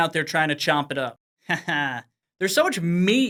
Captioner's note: chuckling